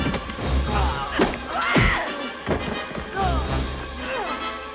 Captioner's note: yells